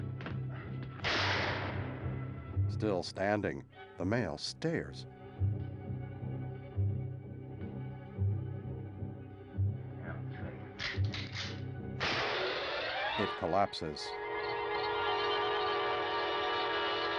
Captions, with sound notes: [gunshot] That'll tell you. [gun cocks] [gunshot]